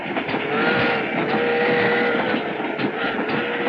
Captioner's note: train whistling